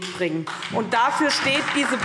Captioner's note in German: Beifall SPD